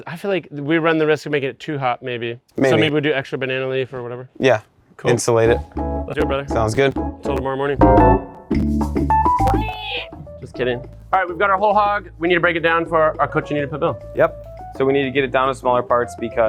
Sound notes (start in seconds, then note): 8.8 upbeat Latin music; 9.6 mimics pig squealing